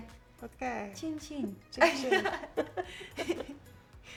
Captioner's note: both laughing; upbeat music